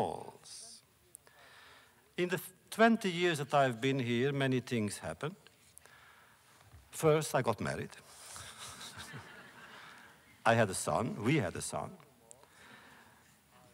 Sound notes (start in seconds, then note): 8.4 laughter